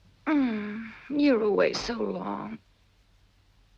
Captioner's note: groans